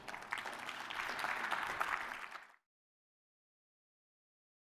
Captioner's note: applause